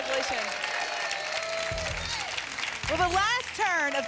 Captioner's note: applause and cheering